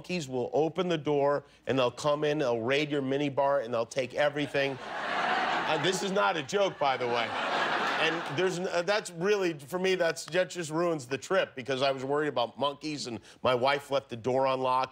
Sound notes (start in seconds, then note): 6.8 laughter